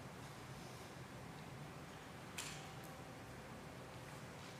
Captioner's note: none